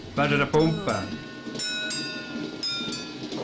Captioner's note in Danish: Bomklokke ringer